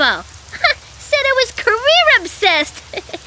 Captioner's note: laughing